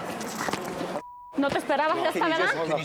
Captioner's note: speaking spanish